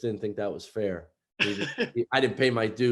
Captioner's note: laughs